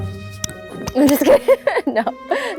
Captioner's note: laughs